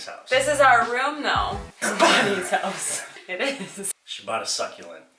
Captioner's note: laughs